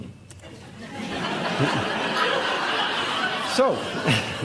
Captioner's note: audience laughing very hard; chuckles